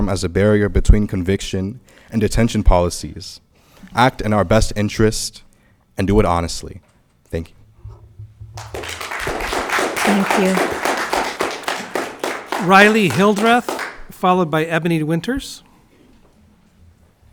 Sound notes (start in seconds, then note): 8.5 audience clapping